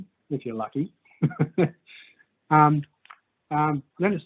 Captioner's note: chuckles